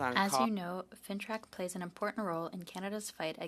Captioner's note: speaking in French